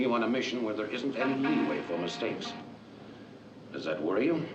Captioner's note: ship horn blaring